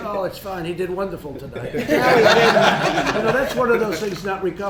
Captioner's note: laughter